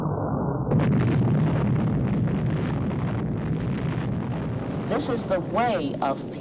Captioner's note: atomic bomb exploding